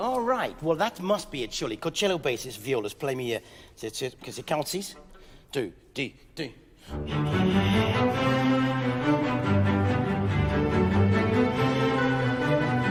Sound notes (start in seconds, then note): 4.2 playful orchestral music; 4.2 speaking in French